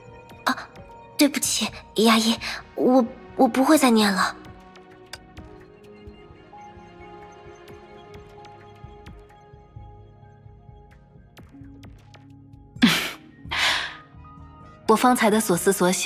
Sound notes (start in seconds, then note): 12.8 haha